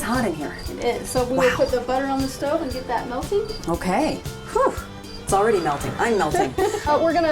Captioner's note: poof